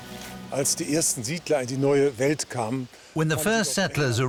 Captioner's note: speaking German